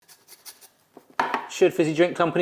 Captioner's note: grater scratches